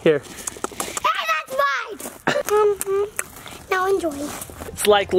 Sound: smacking lips

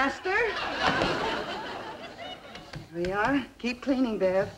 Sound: audience laughing

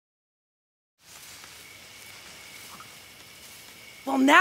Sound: crickets chirping

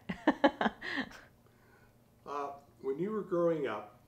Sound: laughing

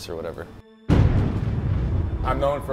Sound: loud pounding

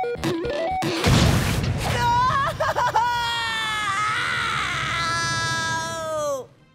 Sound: crying

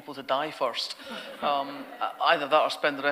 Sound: audience laughter

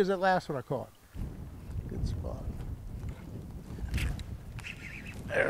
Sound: rod whipping

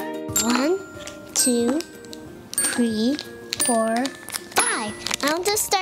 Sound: dinging

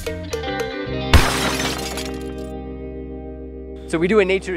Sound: plucky string music; crashing noise

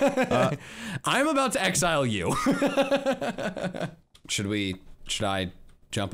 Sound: laughing; laughs

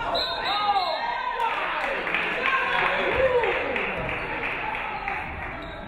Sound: referee whistles; audience clapping

